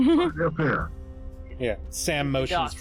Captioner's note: giggles